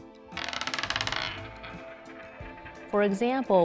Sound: coin spinning

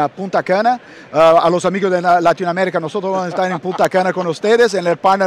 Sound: speaking Spanish

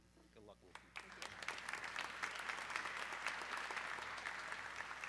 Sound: audience clapping

